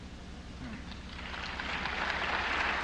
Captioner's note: applause